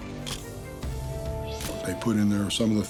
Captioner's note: camera shutter click